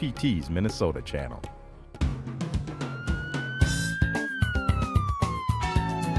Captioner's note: a siren wails